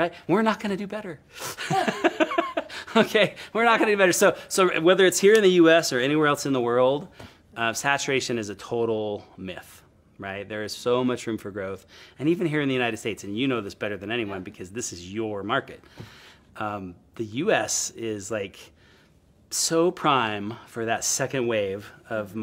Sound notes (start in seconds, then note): 1.5 both laughing; 1.6 laughs